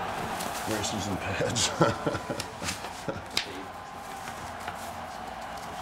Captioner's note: laugh